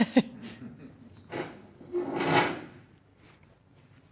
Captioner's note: laugh